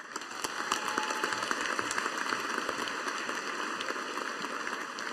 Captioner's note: audience applauding